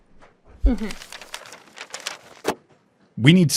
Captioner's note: newspaper rustles and thuds